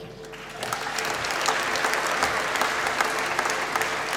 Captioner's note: applause